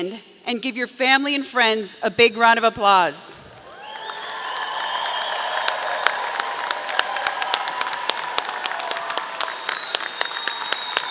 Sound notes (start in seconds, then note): 3.5 audience applauding; 3.6 audience cheering